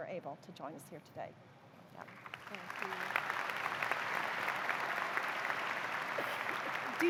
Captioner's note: applause